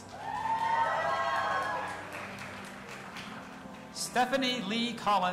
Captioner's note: audience applauding and cheering